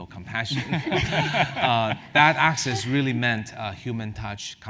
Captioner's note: laugh